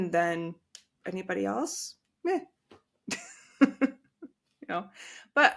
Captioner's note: chuckle